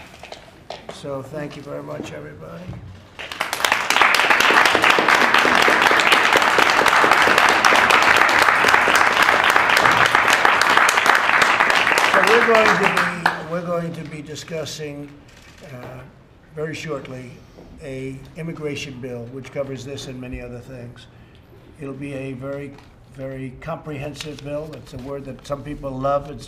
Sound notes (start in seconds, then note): 7.5 applause